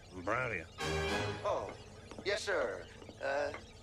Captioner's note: muttering